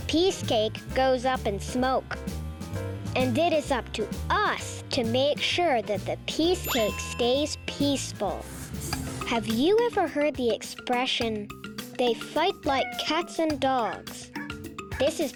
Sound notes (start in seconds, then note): 6.6 check mark rings; 9.2 playful music